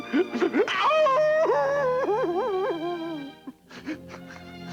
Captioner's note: sobbing; howl of anguish; quiet sobs